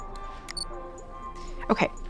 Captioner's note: soft rhythmic music; camera beeps